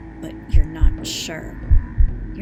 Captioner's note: heartbeat sound effect